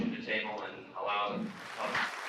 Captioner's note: group applauding